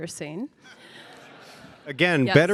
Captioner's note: audience laughing